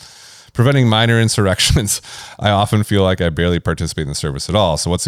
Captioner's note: laughs